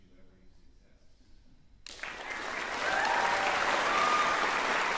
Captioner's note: applause, cheering